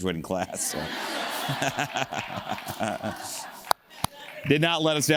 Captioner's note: audience laughs; laughs